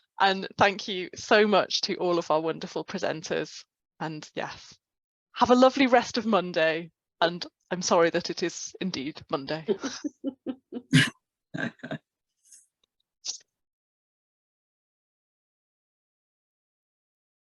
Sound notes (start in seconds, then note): 9.7 both laugh